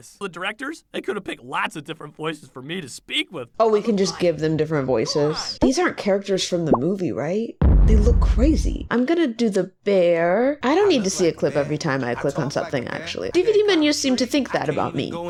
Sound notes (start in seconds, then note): 7.6 boom; 14.7 laughs